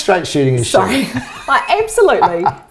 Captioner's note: chuckles